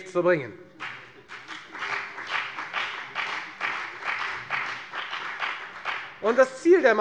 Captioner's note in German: Beifall bei der FDP